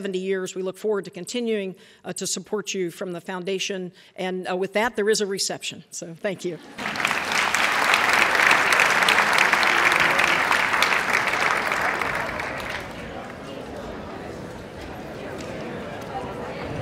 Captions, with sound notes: We look forward to continuing to support you from the Foundation and with that there is a reception. So thank you. [ Applause ]